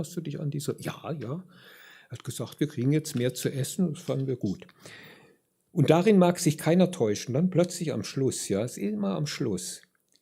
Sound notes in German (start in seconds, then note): none